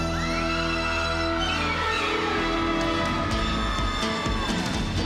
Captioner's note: all screaming